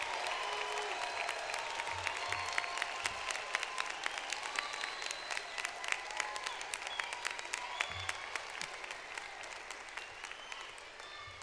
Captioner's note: applause